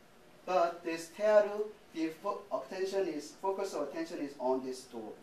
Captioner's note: speaking japanese